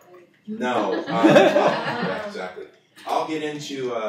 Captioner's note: laughter